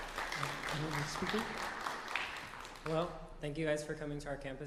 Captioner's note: applause